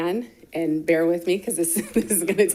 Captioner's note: laughing